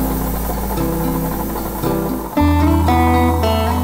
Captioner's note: gurgling